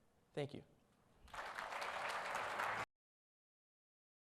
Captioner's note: audience applauds